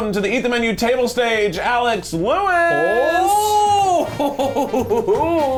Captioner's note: laughs